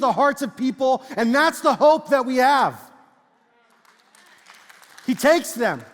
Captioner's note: congregation speaks faintly and claps